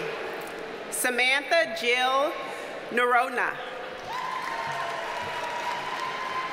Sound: audience cheers and applauds

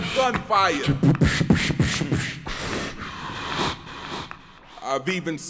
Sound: beatboxing

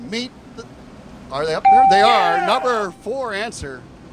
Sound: bell

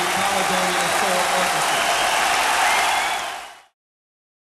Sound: audience cheers

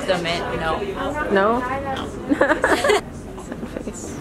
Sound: laughing

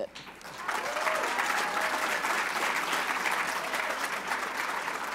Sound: applause

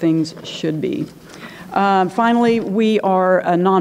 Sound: turns pages

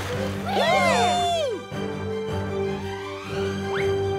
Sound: A4 cheers

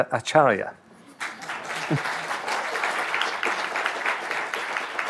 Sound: audience applauding

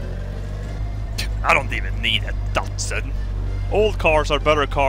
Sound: scoffs

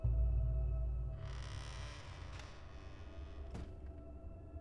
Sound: floor creaking

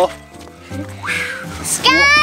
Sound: whooshing

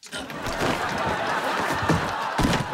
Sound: laughing

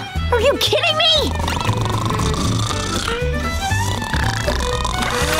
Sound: snoring

